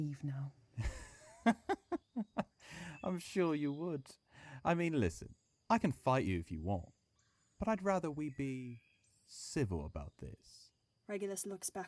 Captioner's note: Sirius laughs